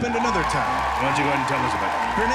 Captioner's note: crowd cheering